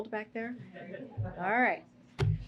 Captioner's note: laughter